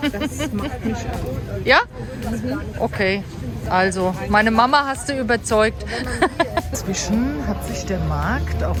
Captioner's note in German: gelächter